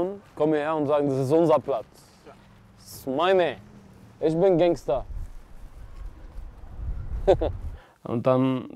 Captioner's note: chuckles